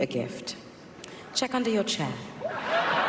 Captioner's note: cheering